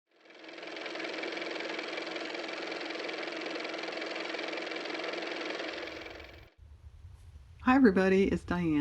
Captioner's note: car motor